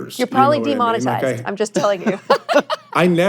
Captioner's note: hosts laughing